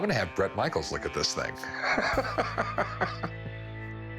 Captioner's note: laughs